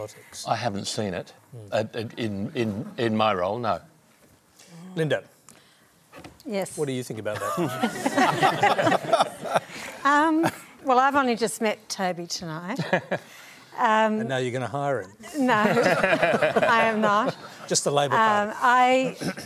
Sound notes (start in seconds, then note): 7.3 laughter; 15.6 laughter